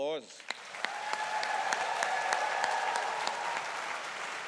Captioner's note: audience applauding